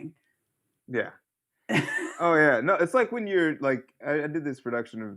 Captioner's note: laughter